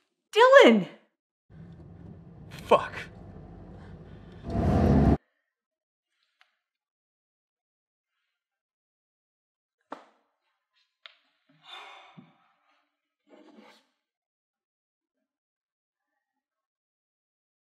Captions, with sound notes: Dyllon! - Fuck! [ACCELERATES CAR]